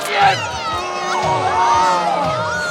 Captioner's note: audience boos